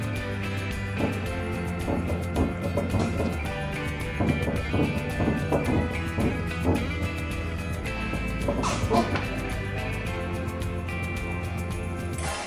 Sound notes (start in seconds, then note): 9.9 laughs